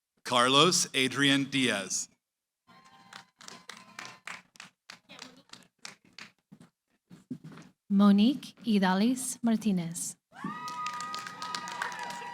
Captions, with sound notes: >> Carlos Adrian Diaz. [ Cheering, applause ] >> Monique Idalis Martinez. [ Cheering, applause ]